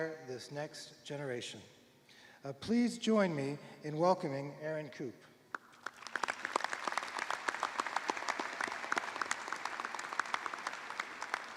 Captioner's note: applause